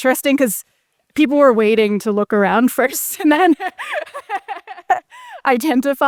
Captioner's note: laughs